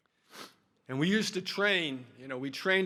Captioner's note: sniffling